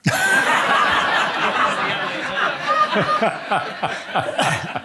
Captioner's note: audience laughing